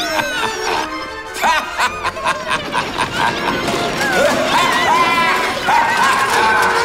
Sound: evil laugh

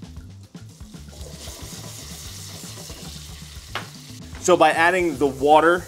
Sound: pan sizzling

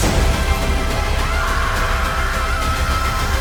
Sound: Gus screaming

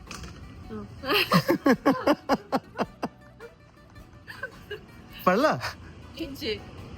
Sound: loud laughter

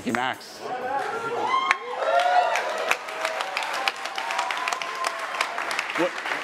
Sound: attendees cheering and applauding

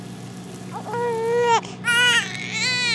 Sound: baby Cries

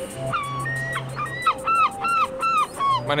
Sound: gull calls

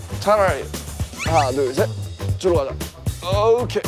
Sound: heave

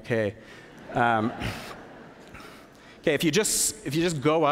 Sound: laughter

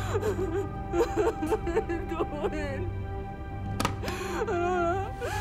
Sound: muffled crying

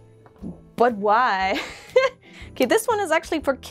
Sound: laugh

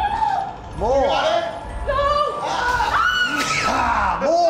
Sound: screams

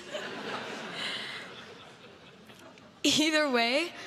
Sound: crowd laughs

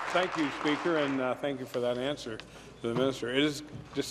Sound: applause

